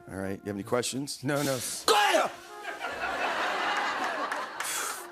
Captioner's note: shouts